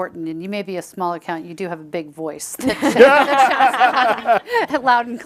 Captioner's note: chuckles